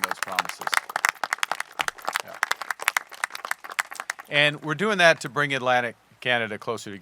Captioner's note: applause